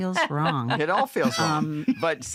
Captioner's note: laughter